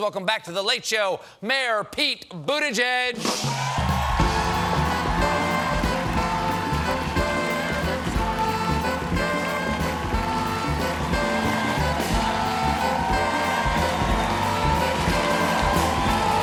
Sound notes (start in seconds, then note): 3.3 band playing; 3.3 cheers and applause; 14.2 band playing; 14.2 cheers and applause